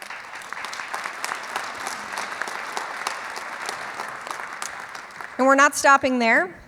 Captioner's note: clapping